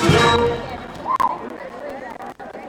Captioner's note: chatter